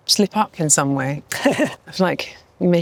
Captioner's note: laughs